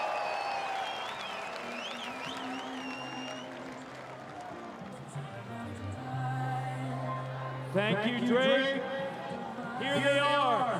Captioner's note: cheering and Applause